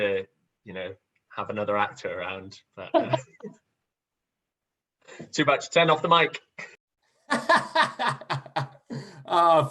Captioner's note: laughter